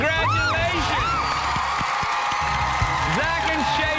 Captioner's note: cheers and applause